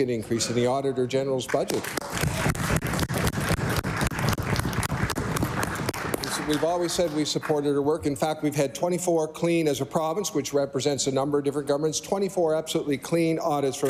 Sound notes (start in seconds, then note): 4.6 applause